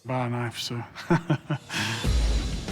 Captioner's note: laughs